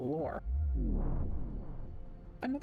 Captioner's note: vwoom